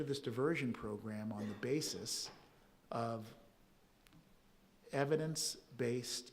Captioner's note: audience member coughing